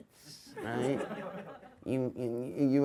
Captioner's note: audience laughs